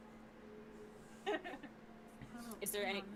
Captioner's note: laughs